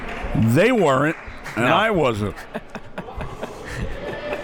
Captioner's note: laughs